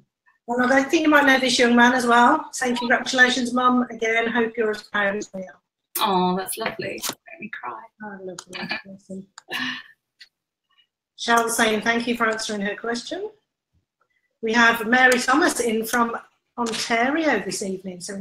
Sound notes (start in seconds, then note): 8.5 laughs